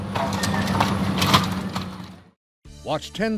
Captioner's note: rubble breaking